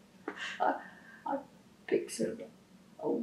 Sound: laughs

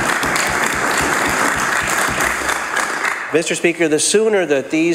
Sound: applause

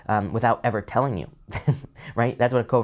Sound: laughs

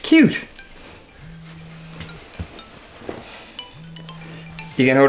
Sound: Nathan's phone rings

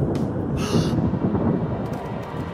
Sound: gasps

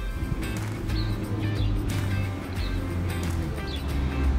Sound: instrumental music; motor running

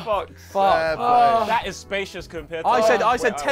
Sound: everyone sighs in relief

